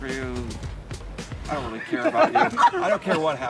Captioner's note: laughs